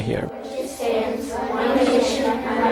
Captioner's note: children reciting the Pledge of Allegiance